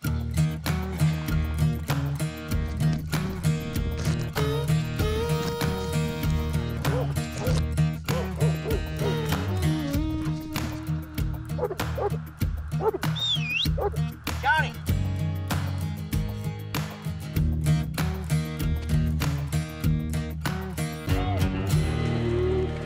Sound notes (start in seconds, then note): 8.0 dog barking; 13.1 whistle